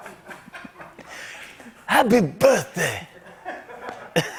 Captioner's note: laughter; As Tony Bennett; laughter